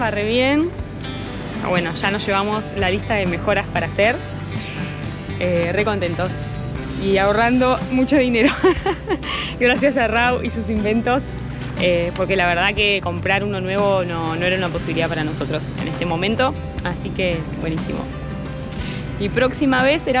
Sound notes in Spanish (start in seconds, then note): 8.4 risas